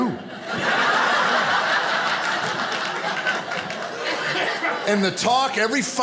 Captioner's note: audience laughing